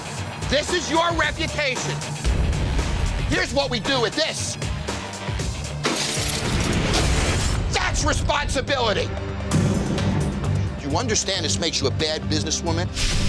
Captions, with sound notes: This is your reputation. Here's what we do with this. [GLASS SHATTERING] That's responsibility. Do you understand this makes you a bad businesswoman?